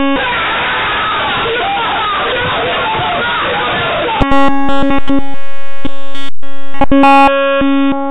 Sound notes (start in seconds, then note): 0.0 screams of Panic; 4.2 beep